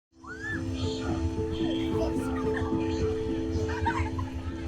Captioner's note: woman screams